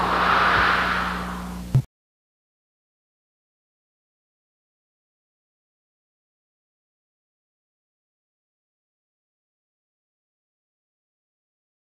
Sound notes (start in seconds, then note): 2.1 silence